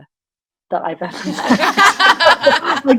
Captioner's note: everyone laughing